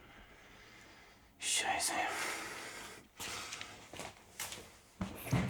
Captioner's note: Koch speaking German